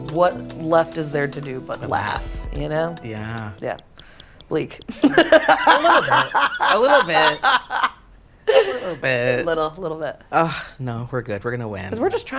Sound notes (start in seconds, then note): 4.9 laughs